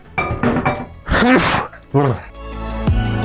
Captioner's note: sneezes in Lithuanian